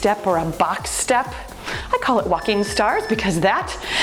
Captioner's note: timer beeps